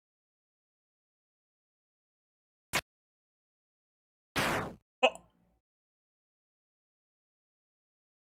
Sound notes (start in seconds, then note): 5.0 stammers